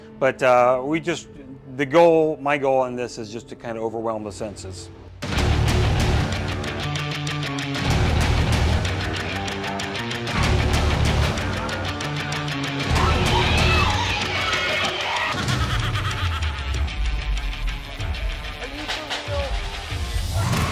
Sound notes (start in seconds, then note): 5.1 intense rock music; 12.8 people screaming; 15.2 witch cackling; 20.2 monsters screaming; 20.4 intense rock music